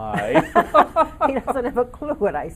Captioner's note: laughing in unison